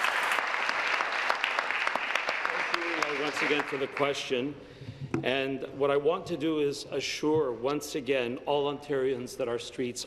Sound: applause

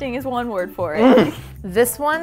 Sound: moans

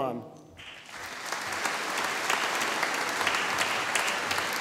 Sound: audience applauding

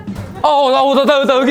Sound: excited

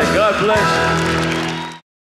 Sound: audience cheering

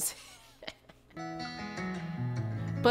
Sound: laughter

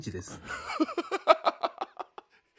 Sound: laughing

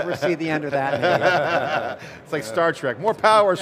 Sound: group laughing

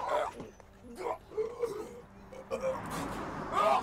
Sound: retching

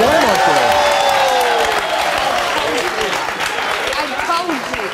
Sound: audience applauding

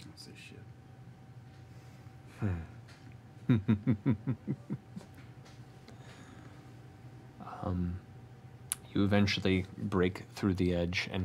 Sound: chuckles

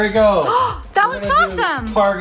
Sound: gasps

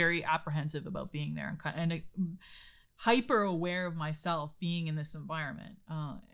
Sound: stammers

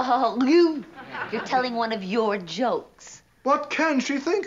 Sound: coughs

